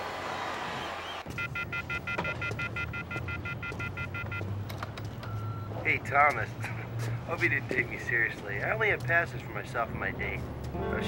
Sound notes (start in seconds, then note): 1.3 phone dialing tone